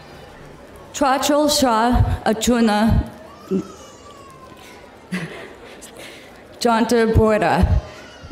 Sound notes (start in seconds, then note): 1.1 speaking in foreign language